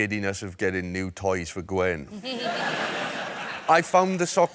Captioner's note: laughter